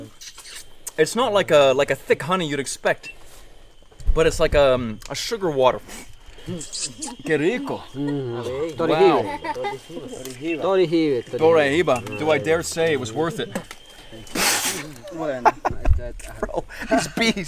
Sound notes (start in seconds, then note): 7.4 speaking in foreign language; 15.0 laughing